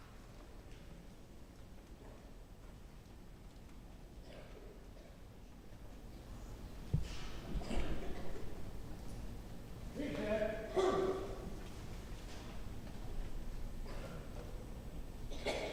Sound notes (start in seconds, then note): 10.7 muffled yelling